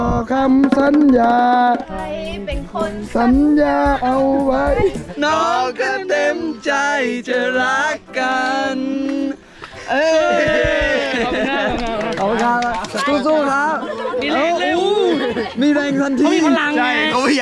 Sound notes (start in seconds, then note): 0.0 sings; 9.9 cheers; 11.6 clap hands